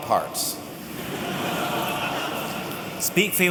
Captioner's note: laughter